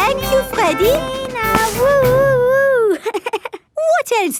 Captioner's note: chuckles